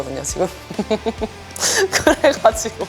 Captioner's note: laugh